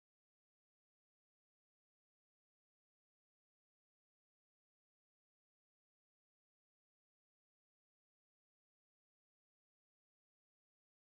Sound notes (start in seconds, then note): none